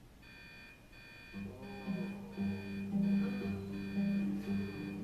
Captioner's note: alarm beeping